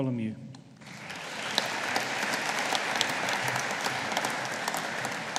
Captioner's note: audience applauding